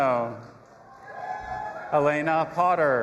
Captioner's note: audience applauding and cheering